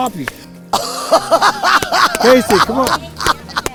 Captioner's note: laughs